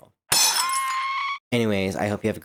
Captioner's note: screaming and glass crashing in brain rn